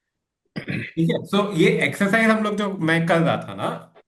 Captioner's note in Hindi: गला साफ़ करने की आवाज़